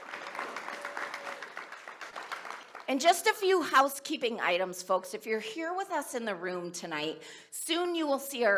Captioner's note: applause